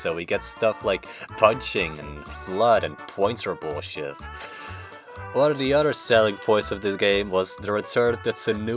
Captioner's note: bonking